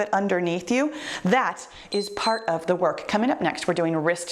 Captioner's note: timer beeps